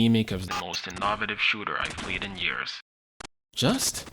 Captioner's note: glitch, robot voice